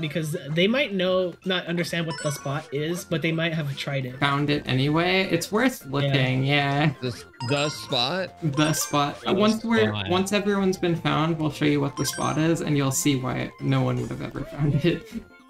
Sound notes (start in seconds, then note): 10.3 quietly